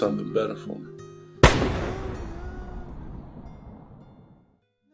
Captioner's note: gunshot